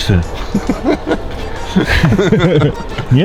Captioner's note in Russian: смех